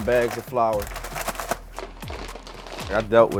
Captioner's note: bag crinkling